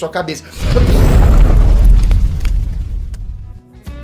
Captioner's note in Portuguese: explosão